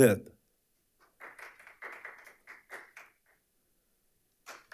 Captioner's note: audience applauding